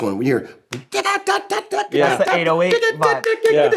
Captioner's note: imitates drum beat